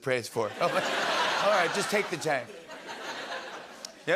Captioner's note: laughter